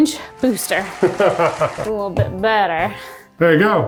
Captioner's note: crowd cheers and applauds